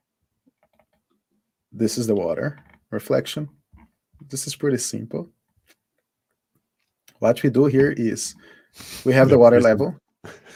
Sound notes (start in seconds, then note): 8.5 laughing